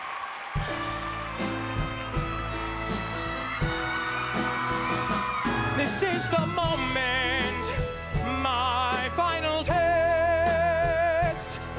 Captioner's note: cheers and applause